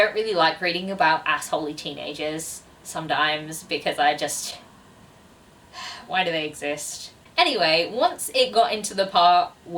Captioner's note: sigh